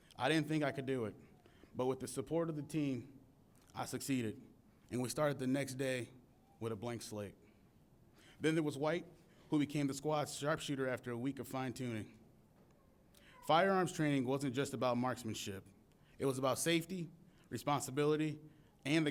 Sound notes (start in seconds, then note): none